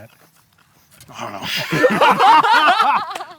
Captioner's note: laughing